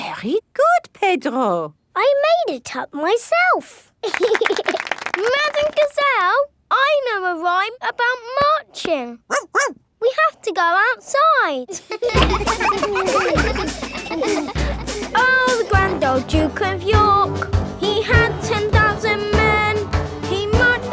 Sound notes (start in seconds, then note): 4.0 laughing and clapping; 9.3 barks; 11.6 children laughing